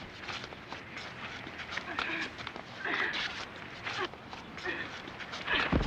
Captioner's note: grunting